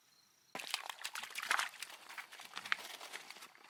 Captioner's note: water splashing; paws pattering